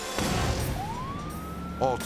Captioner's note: siren wailing